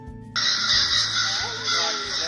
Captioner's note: crow sound effects